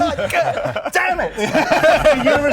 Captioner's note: laughs